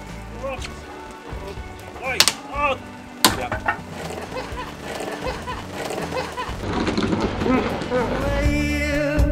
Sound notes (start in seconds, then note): 2.0 laughter from hell